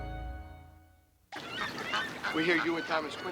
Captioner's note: birds squawking